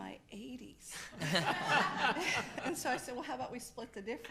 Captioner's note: laughs